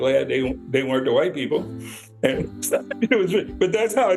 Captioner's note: laughs